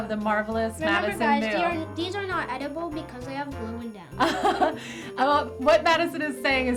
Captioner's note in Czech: Smích